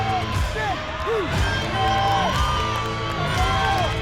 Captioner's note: audience cheering